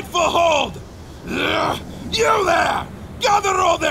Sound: grunt

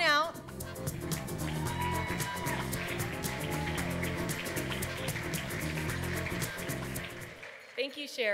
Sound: applause

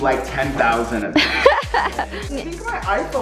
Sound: laughs

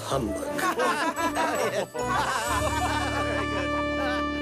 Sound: they all laugh

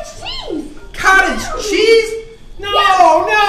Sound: voiceover

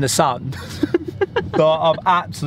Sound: laughing

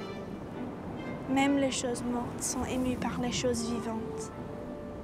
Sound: speaking French

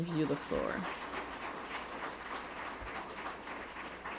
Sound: applause

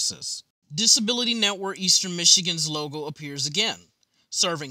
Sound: voiceover

